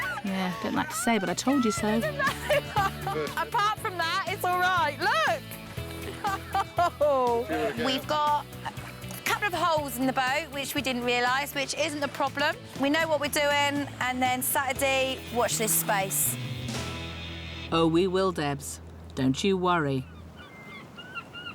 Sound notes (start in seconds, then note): 2.9 laughs